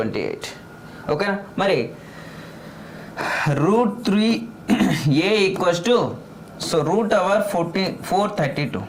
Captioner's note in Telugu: గొంతు సవరించుకోవడం